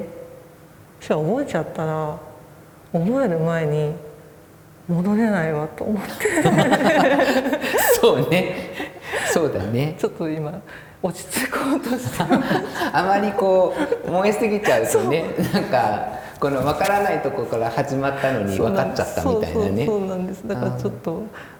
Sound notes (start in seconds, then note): 9.2 laugh; 12.3 laugh